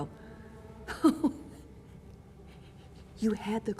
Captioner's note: laughing